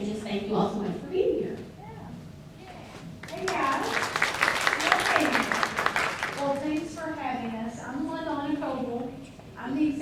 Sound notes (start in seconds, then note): 3.2 audience claps